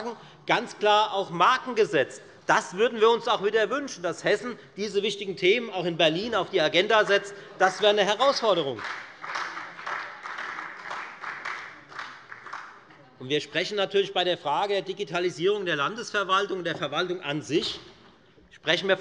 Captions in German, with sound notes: Marken gesetzt. Das wünschen wir uns auch in diesem Fall. Hessen sollte die wichtigen Themen auch in Berlin wieder auf die Agenda setzen. Das wäre eine Herausforderung. [Beifall bei der FDP und bei Abgeordneten der SPD] Bei der Frage der Digitalisierung der Landesverwaltung sprechen wir